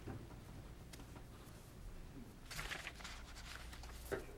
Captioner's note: papers shuffling